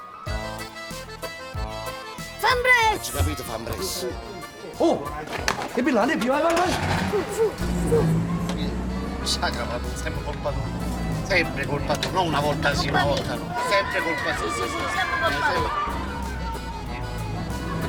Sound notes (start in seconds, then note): 0.8 upbeat music playing; 6.8 car engine starts; 16.2 upbeat music still playing